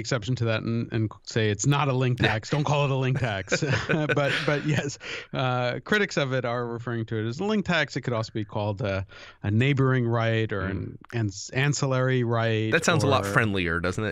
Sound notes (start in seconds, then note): 3.2 chuckle